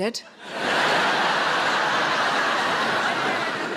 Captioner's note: audience laughing